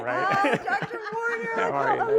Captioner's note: laughing